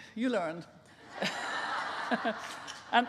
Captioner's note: laughing